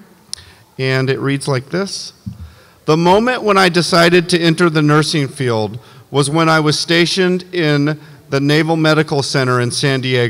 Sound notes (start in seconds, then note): none